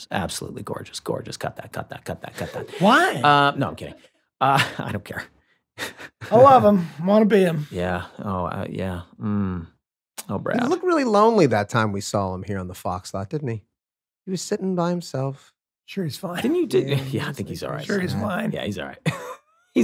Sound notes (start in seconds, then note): 2.3 laughs; 4.7 chuckles